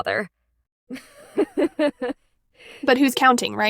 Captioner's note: chuckles